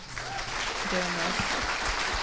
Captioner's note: crowd applauds